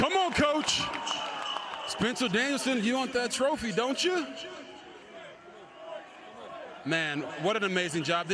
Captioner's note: applause